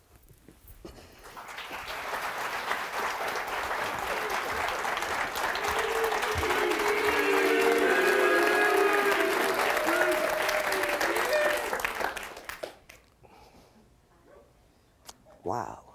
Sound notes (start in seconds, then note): 1.1 audience applauds